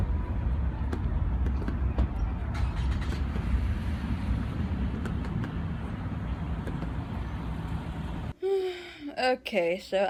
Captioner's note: car engine starts